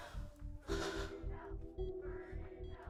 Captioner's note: sighs